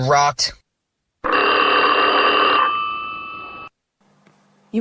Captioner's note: the phone rings